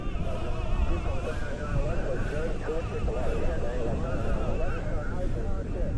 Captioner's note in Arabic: الدردشة اللاسلكية العسكرية